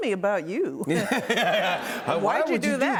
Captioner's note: laughter